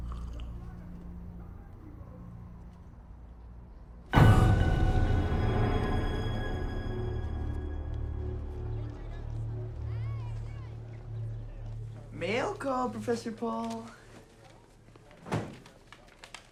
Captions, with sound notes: (Karasic sipping) (loud menacing music) (students chattering) - Mail call, Professor Paul.